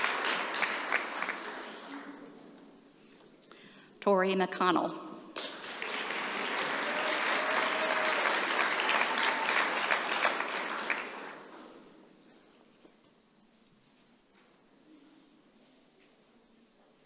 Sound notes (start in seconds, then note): 1.6 applause